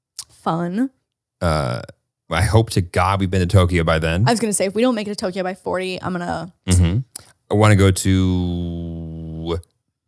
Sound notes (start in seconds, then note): 6.8 clicks tongue